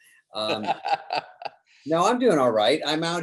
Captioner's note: Jerry laughs